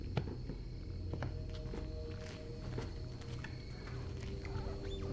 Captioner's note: insects chirping